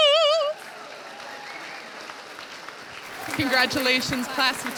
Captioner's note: audience applauding